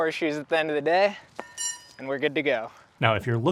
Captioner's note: horseshoe clanging